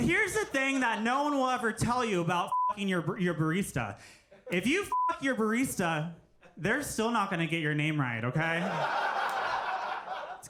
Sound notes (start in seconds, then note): 2.5 beep; 4.9 beep; 8.4 audience laughing